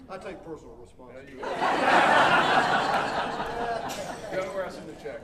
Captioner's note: audience laughing